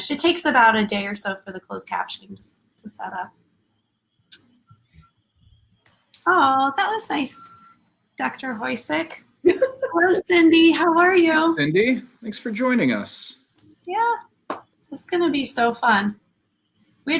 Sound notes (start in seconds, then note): 9.4 laughing